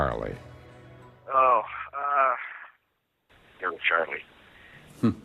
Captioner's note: on phone